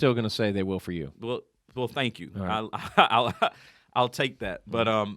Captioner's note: laughing